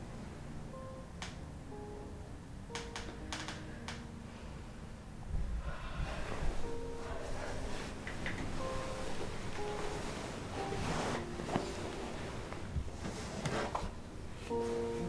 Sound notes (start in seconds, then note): 5.5 sighing; 5.7 melancholy piano music